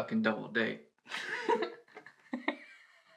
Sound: she laughs

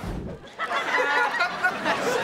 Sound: laughing

